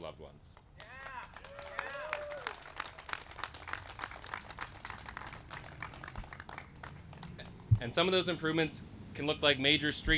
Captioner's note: applause